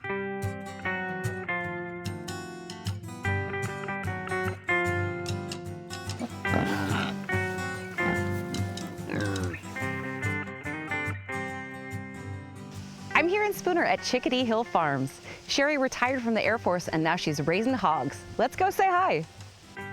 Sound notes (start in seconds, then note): 0.2 mellow guitar music; 6.1 pigs grunting